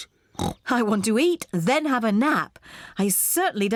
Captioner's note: snorts